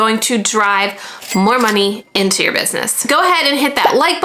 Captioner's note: cash register chiming